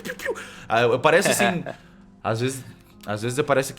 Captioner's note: laughs